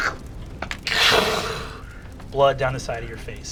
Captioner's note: laughing; grumbling